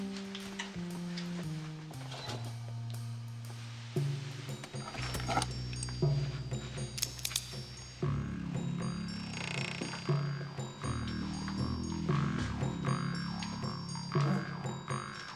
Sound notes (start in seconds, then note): 2.4 door opens; 5.2 gun unholstering, cocking